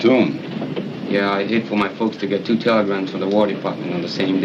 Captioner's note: train rumbles